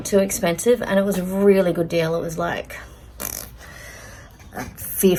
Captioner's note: makes blowing-a-raspberry mouth noise